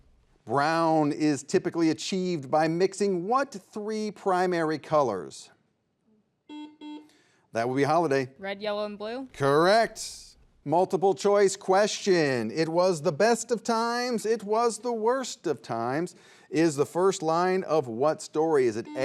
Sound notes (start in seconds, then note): 6.4 buzzer buzzes; 18.8 buzzer buzzes